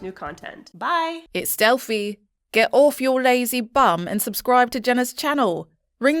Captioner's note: confident Female Voice